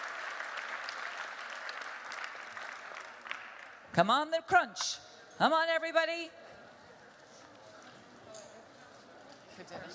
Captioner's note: applause